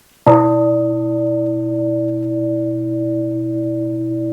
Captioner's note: bell rings